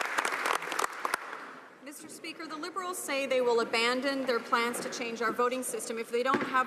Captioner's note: some Applause